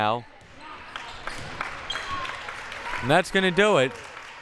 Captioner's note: audience applauding; audience applauding and cheering